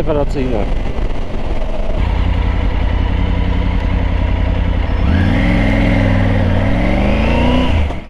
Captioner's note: engine sound